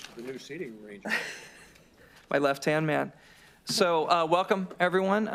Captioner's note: laughter